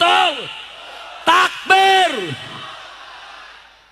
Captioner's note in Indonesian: berteriak